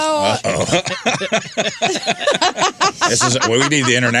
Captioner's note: laughing